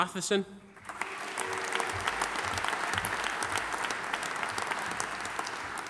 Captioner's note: audience applauding